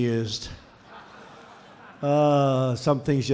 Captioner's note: laughter